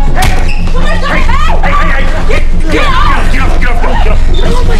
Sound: people yelling

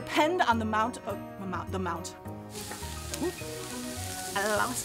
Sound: sizzling

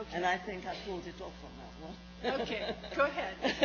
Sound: laughs

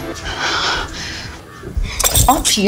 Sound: breathing shakily

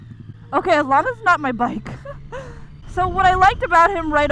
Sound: chuckles

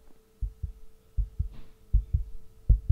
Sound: heart Beating

